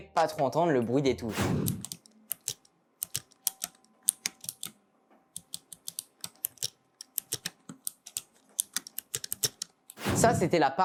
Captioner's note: ASMR keyboard noises